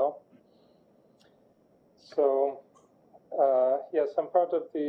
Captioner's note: pause